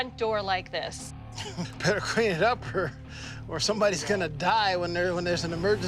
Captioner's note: laughs